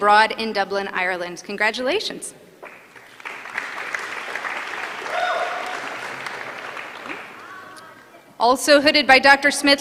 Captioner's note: applause